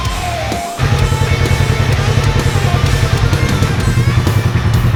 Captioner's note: engine running